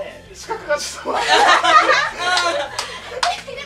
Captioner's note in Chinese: 爆笑